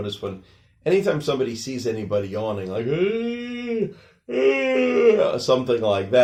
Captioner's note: yawning sounds